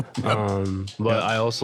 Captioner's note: chuckling